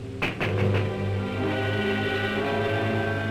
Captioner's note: hand knocks